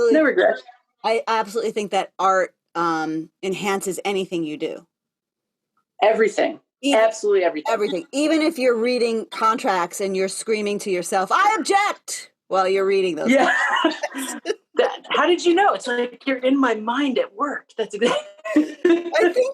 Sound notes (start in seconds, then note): 13.2 laughter